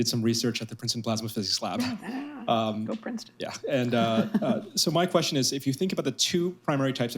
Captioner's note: laughter